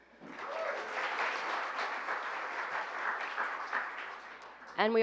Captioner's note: applause